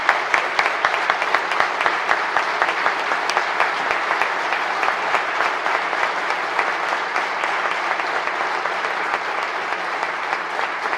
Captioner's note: applause